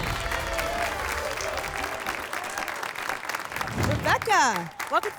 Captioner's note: applause and cheering